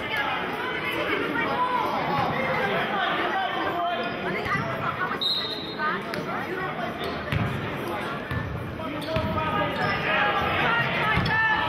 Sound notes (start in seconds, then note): 5.2 whistling